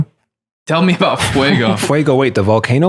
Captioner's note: laughing